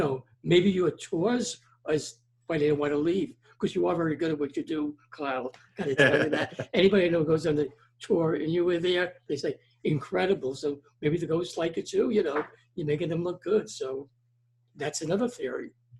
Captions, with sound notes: Maybe your tours is why they don't wanna leave 'cause you are very good at what you do, Kyle. (laughing) Anybody I know that goes on the tour you were there, is like, "Incredible." So, maybe the ghosts like it too, you know. You're making them look good so that's another theory.